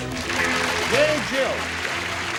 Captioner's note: applause